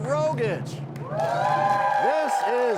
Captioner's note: cheers and applause